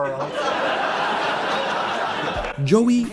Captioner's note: laughter